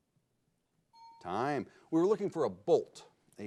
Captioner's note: bell chimes